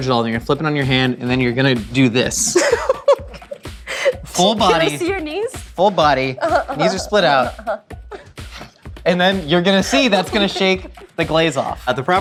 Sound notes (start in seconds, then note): 3.8 laughs